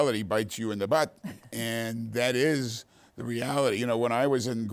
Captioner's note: laughing